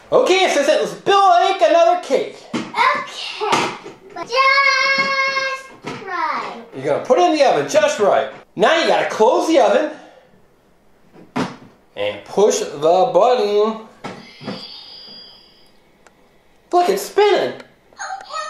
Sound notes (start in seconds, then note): 11.2 door shuts; 14.2 magical chimes